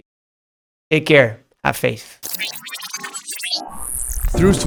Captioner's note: electric whooshing